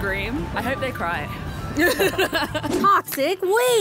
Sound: laughter

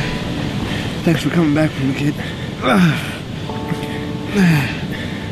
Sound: groans

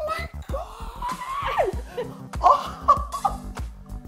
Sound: screaming; laughing

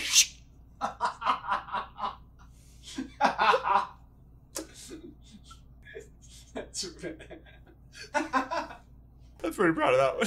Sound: laughing

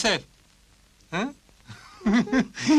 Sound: laughter

